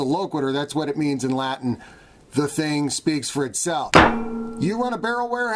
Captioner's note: metallic thud